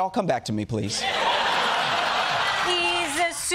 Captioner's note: laughter